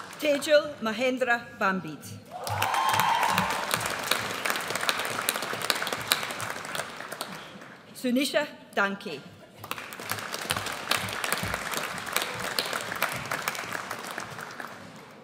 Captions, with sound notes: Tejal Mahendra Bhambid. (AUDIENCE CHEERS) Sunisha Danke. (AUDIENCE APPLAUDS)